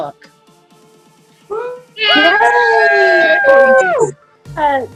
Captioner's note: cheering